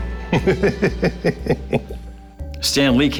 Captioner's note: laughter